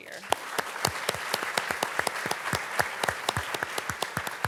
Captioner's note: participants clapping